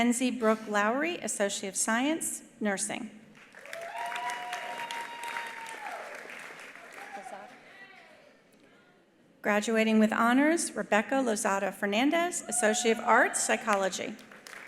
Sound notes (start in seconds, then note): 3.4 attendees applauding; 3.6 attendees cheering